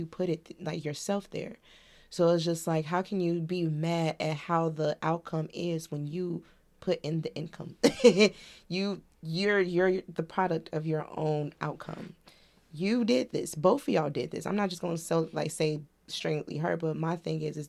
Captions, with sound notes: put it yourself there. So it's just like, how can you be mad at how the outcome is when you put in the income? (Laughs) You're the product of your own outcome. You did this, both of y'all did this. I'm not just going to say, like, say, string with her, but my thing is, is